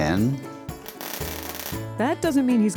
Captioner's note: soldering iron crackles